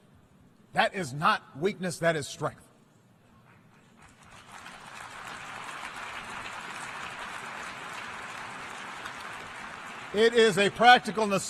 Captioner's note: applause